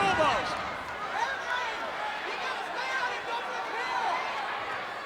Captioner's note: crowd yelling